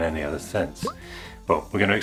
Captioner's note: pop!